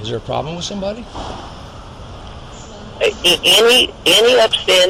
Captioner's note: sounds of interior airport noises in the background